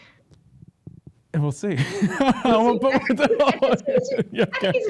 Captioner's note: laughs